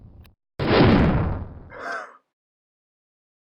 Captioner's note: rocket Zooming